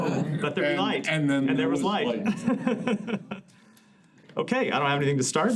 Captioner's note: laughter